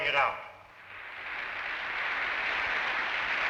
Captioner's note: applauding